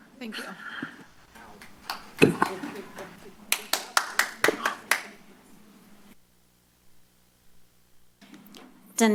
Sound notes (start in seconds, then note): 3.4 applause